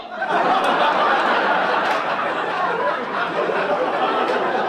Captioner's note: audience laugh